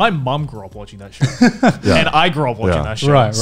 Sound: laughing softly

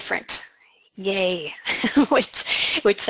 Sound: laughing

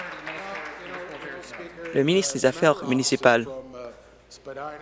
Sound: applause

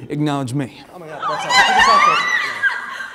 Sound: fan Screeching

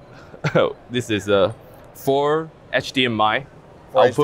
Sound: laughs

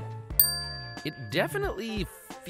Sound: dings

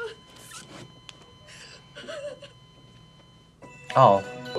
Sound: monitor beeps; woman cries

